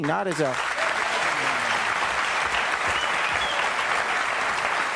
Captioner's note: audience applauding